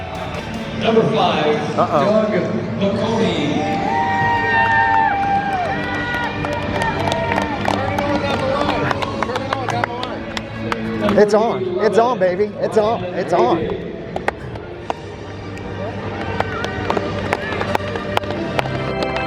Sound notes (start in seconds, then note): 3.5 cheering and clapping